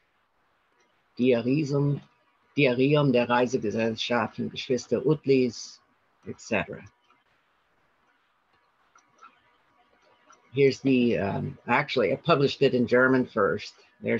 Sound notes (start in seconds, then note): 1.3 speaking in German